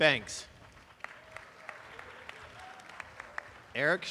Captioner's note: applause